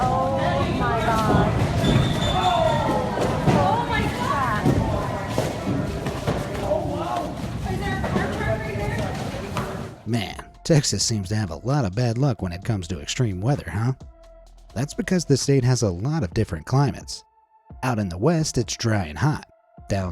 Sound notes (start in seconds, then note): 3.0 crowd chattering